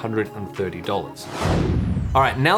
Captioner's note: air whooshes